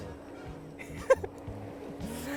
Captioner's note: chuckles